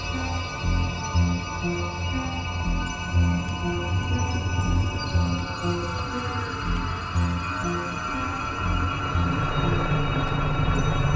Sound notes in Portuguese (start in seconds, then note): 6.0 uivos